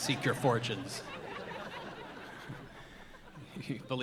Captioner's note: audience laughing